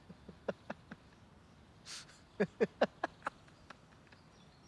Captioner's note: X laughing